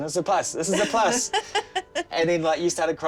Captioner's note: she laughs